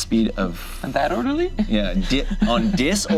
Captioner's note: laughs